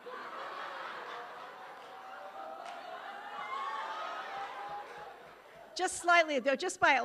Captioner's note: audience laughing